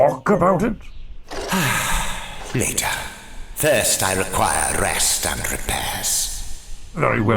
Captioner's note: sigh